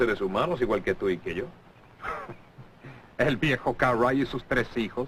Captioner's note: chuckles